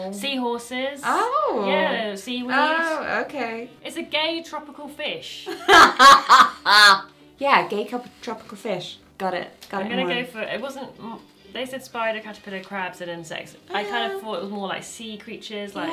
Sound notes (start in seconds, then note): 5.7 laughing